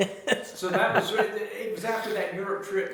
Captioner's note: laughs